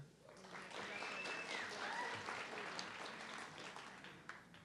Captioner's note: audience clapping